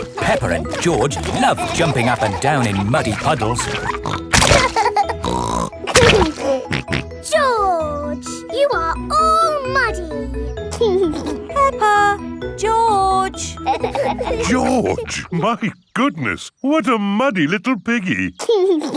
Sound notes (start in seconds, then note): 4.5 laughs and snorts; 10.7 giggling; 18.5 giggles and snorts